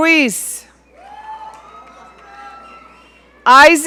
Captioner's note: audience cheering